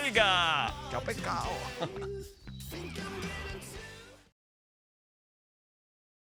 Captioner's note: laugh